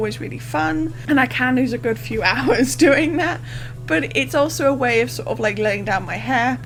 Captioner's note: laughs